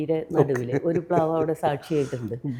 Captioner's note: laughs